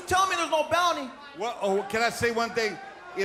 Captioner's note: crowd cheering